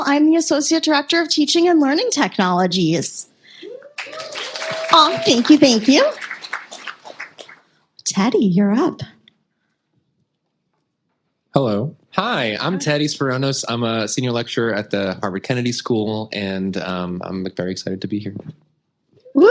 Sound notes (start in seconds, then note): 3.8 applause